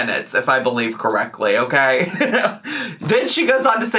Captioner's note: laughs